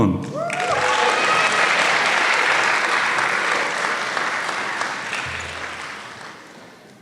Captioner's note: applause